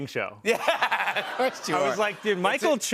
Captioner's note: laughter